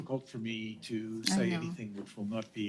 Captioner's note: speaking French